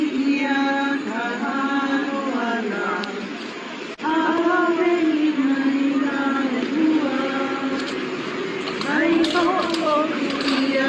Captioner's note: chanting